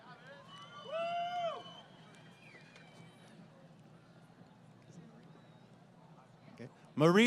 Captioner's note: crowd Cheering